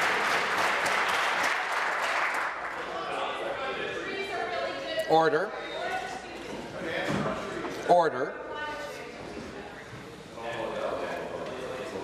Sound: applause; cheers

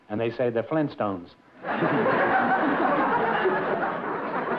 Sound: laughter

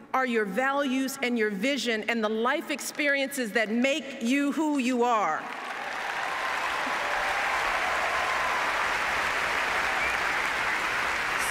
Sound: applause

